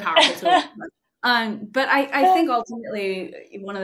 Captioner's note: laughing